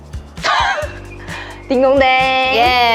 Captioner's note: laughter